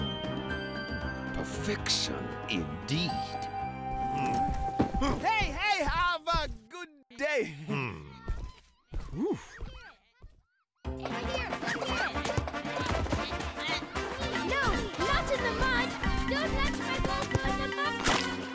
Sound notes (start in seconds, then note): 3.5 grunts; 7.4 sighs; 7.5 grunts; 10.9 triumphant music